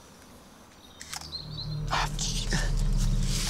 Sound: camera shutter clicks

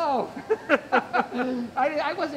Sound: laughing

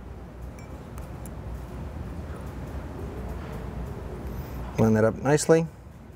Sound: metal clinks softly

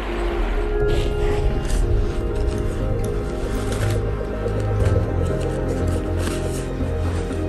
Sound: sound of putting on the backpack

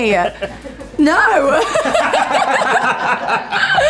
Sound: laughter

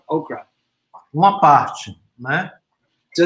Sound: speaks portuguese

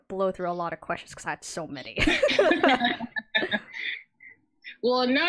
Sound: laughs

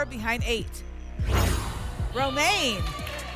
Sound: whoosh

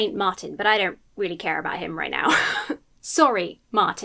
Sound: wheezes

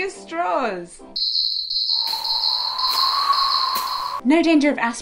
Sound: sound effects as if tumbleweed was blowing

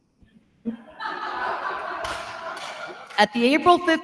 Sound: attendees laughing

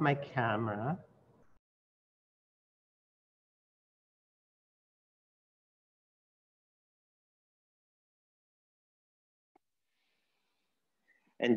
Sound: silence

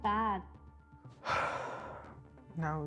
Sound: sighing

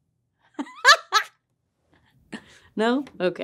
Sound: laughs

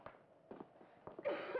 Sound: coughing

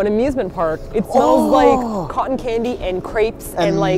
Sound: inhales

